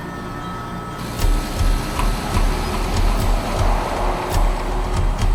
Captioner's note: car engine revving; suspenseful music